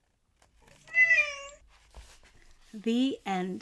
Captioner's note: cat meowing